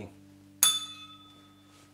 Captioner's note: bell rings